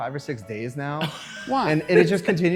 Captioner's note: laughter